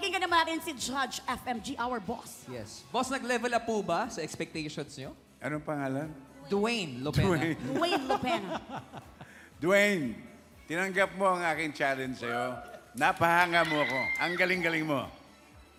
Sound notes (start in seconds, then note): 7.7 chuckles; 7.7 robi laughs